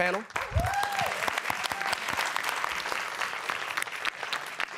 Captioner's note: applause and cheering